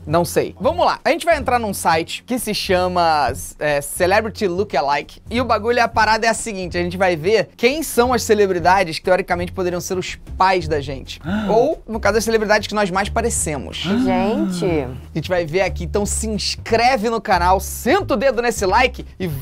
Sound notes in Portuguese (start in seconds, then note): 13.7 faz som de surpresa